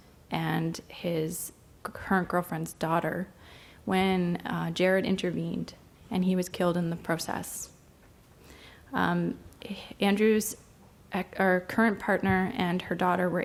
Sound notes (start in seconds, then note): none